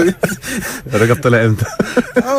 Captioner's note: laughs!